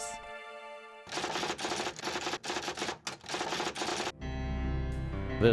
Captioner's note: typewriter keys clacking